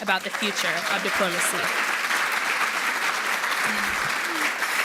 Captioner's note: audience applauding